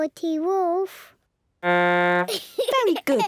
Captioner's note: blows horn, giggles